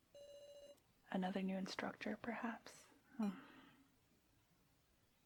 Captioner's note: sigh